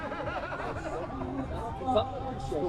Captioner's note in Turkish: kahkaha